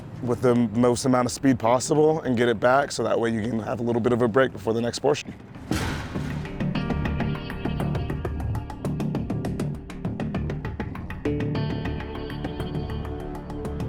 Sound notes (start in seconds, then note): 5.4 fan clanging; 8.0 dramatic music